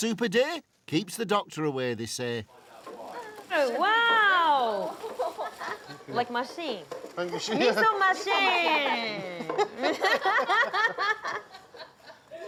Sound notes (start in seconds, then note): 5.0 women chuckle; 9.2 laughter